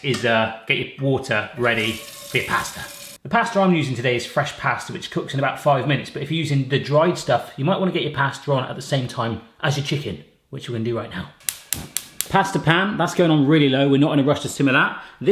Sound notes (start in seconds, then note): 11.4 fire ignites